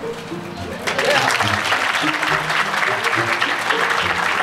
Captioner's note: audience applause